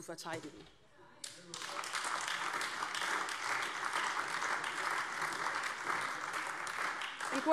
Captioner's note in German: Beifall AfD - Zuruf BÜNDNIS 90/DIE GRÜNEN